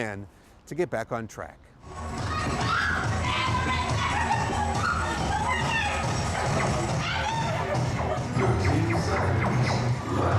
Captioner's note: sound of laser tag